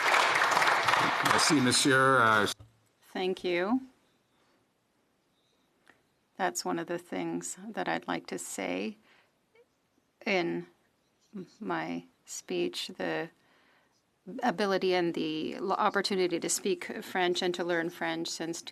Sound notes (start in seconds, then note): 3.3 some Applause